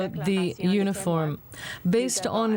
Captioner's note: speaking French